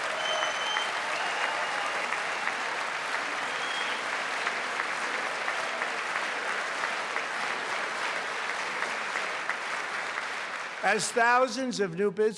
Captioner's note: applause